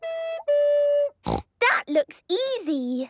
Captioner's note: snorting; off-key